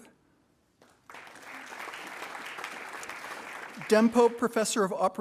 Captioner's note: attendees applauding